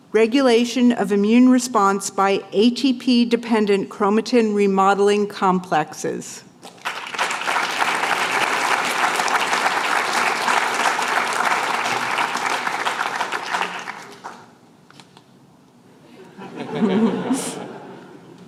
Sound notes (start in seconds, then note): 6.6 applause